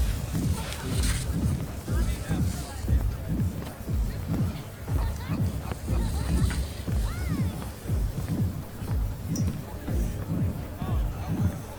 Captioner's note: water splashing